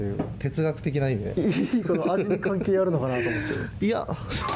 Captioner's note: laughs